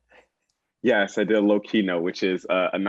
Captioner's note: laugh